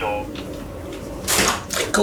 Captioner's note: door opens